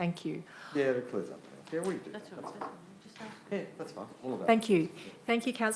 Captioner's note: speaking faintly